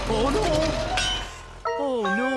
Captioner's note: clang!